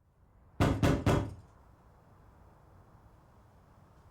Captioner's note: hand pounding on door